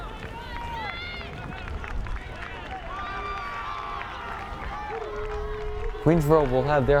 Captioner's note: crowd cheering and clapping rhythmically